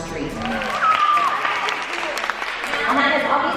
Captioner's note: applause